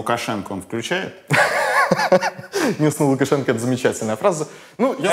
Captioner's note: laughs